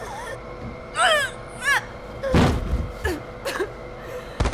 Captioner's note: groaning; coughing